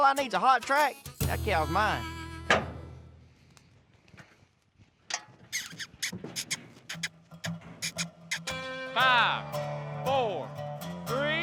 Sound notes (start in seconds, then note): 2.5 unlocking gate; 5.6 calling